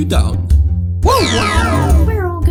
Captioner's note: mario whimpers